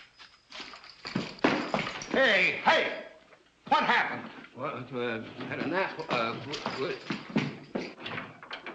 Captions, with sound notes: Hey, what happened? [ DEPUTY STAMMERS ]